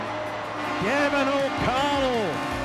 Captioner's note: crowd cheering